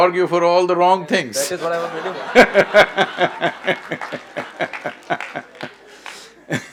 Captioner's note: laughs